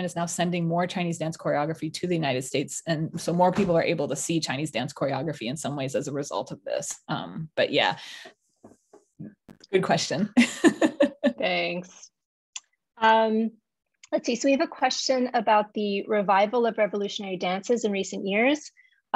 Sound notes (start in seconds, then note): 10.4 laughs